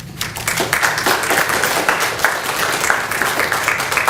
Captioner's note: clapping